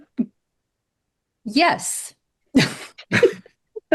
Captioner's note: laughs